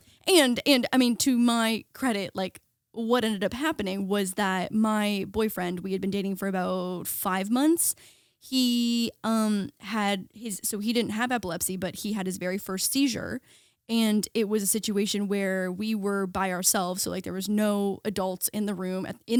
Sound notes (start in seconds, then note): none